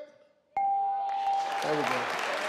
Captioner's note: bell rings; audience clapping